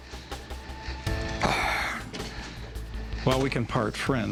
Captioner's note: sighs